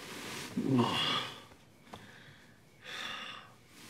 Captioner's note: groans